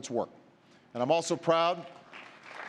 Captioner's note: applause